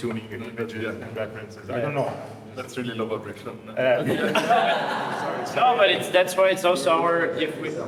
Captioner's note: laughter